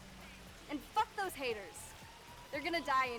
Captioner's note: distant sirens